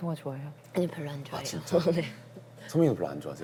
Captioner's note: laughs